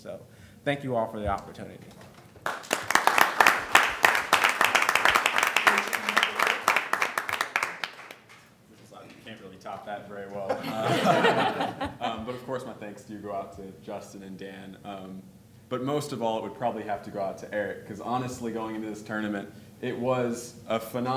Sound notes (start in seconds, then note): 2.4 applause; 10.4 laughter